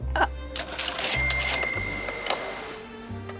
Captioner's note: cashier drawer rings